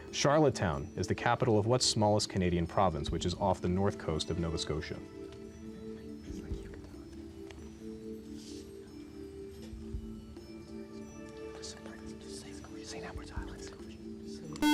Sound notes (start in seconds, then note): 5.7 whispering; 14.6 buzzer